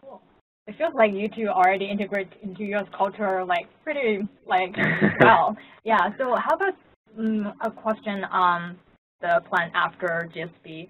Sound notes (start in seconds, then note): 4.7 laugh